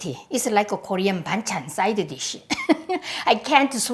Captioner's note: laughs